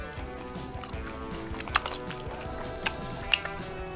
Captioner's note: chews